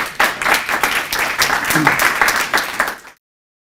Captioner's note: group applauds